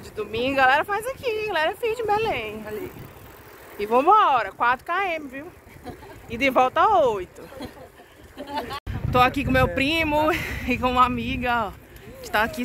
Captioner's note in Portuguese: risos